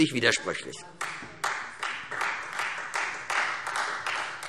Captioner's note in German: Beifall Freie Demokraten